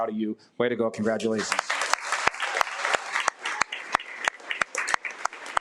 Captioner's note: audience applauding